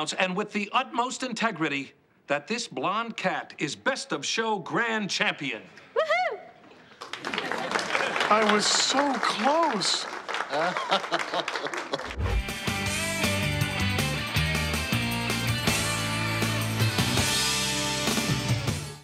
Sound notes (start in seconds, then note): 6.9 group applauds; 10.5 Salem sobs; 12.1 upbeat music